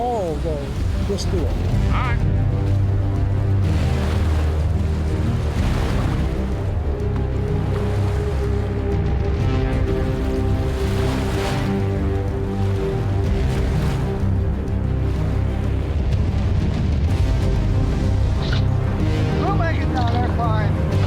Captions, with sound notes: All, though, let's do it. (intense foreboding music) (waves crashing) We'll make it down there. Fine.